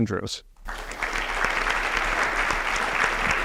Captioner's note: applause